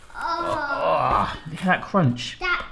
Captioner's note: groaning